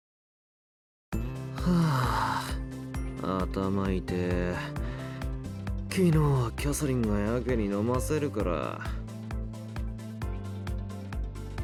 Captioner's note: sigh